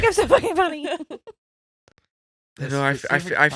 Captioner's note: laughing